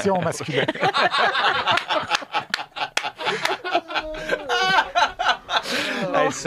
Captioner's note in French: rires